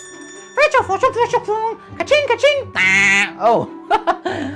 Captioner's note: speaking elvish